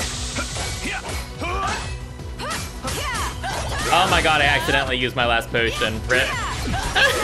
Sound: anxious laugh

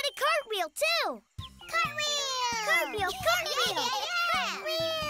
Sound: all repeating excitedly

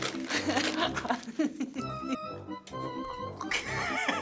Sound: playful music; laughs

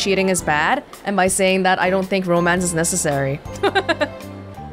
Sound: chuckles

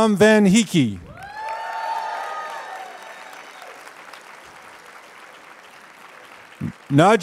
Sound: applause

